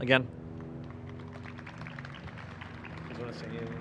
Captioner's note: applause